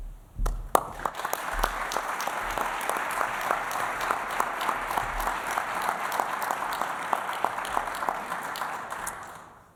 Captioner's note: applause